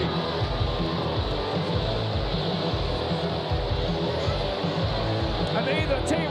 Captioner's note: audience cheering; upbeat music